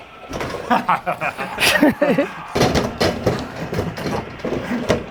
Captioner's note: laugh